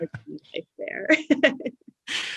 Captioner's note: laughs